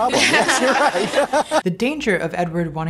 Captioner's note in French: Rires